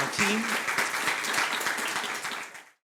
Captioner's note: audience applauds